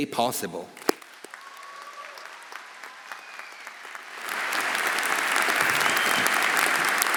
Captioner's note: audience applauding; audience cheering